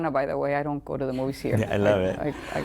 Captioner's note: laughter